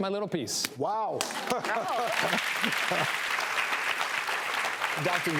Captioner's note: audience applauds